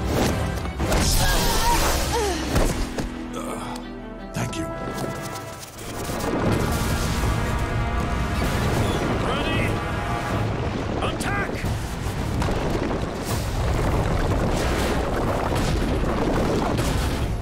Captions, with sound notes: [groaning] Thank you. Ready?! Attack!